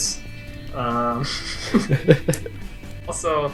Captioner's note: giggles